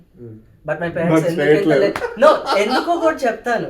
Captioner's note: laughs